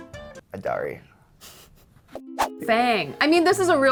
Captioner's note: laughing